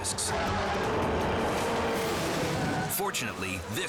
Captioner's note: engines revving